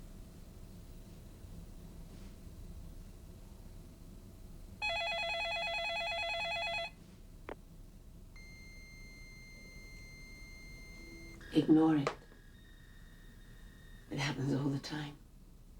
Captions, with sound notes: (phone rings) (fax signal beeps) Ignore it. It happens all the time.